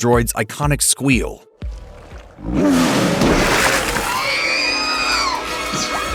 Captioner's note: R2 screams